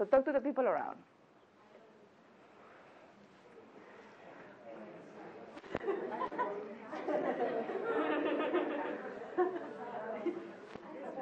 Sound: discussion and laughter

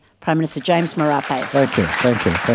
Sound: applause

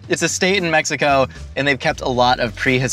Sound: none

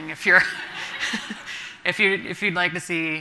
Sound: everyone laughing

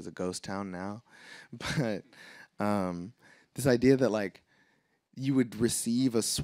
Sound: laughs

